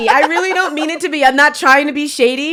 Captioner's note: laughs